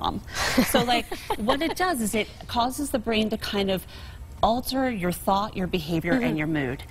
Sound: laughter

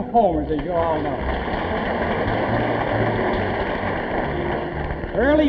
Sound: audience applauding

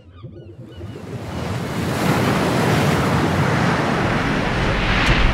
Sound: water splashing

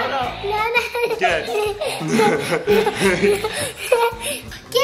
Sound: laughter

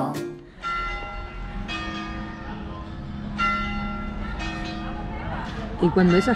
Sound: chimes

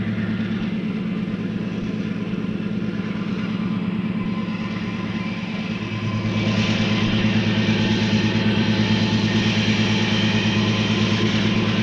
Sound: sound of the train moving

